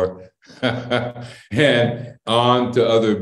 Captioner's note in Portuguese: Risos